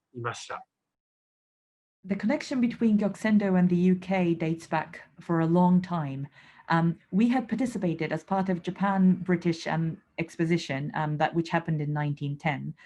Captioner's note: interpreter speaking